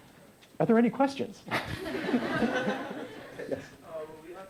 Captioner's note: laughter